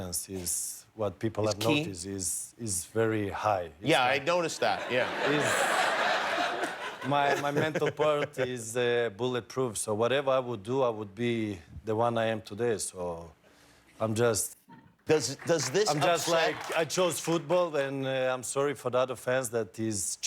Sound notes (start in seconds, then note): 9.3 laughter